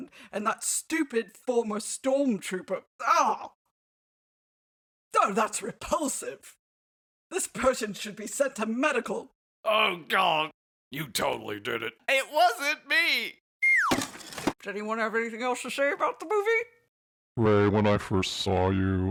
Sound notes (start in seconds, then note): none